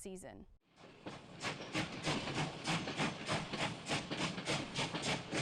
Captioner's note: train rails rumbling